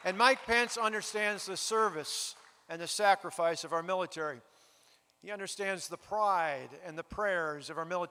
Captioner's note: applause